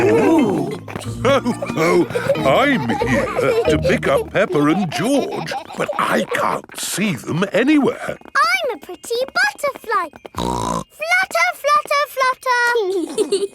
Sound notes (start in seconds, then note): 0.0 laughs; 10.3 snorts; 13.0 both giggling